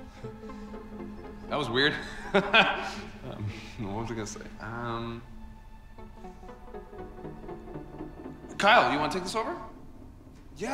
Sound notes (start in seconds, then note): 2.0 nervously laughing